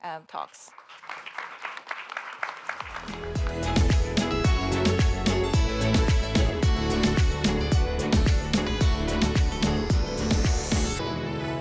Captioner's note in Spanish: aplausos